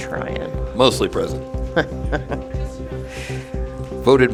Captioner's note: laughter